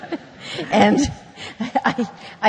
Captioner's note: laughter